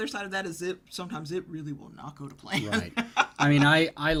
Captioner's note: laughs